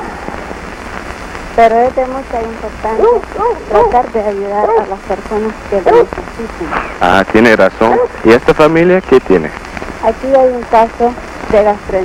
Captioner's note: A man and woman converse in Spanish